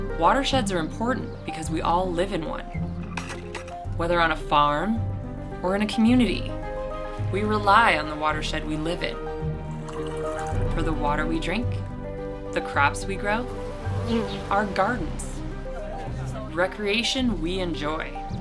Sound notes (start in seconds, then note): 13.5 bees buzzing